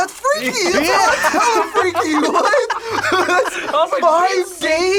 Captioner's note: laughs